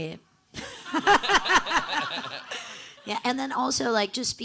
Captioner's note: everyone laughing